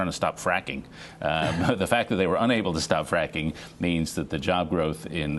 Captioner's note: laughter